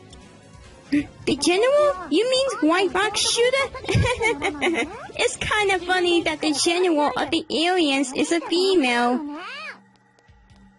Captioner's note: laughs